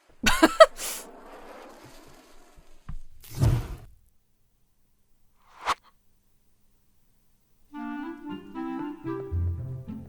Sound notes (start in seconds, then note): 0.2 laughs; 3.4 spark whooshes; 7.7 whimsical music